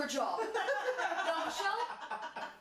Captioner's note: laughing